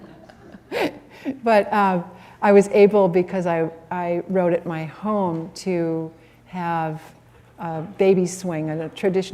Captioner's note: laughter